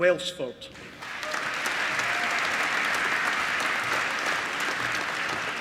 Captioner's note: applause